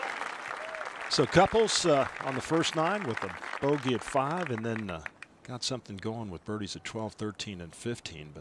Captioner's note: applause